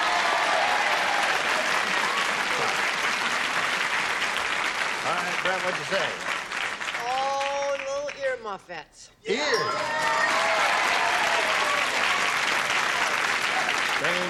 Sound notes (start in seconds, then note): 0.0 cheering and applause; 9.5 ding; 11.2 cheering and applause